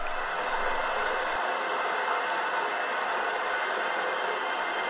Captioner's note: water running